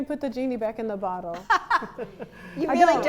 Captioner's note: laughter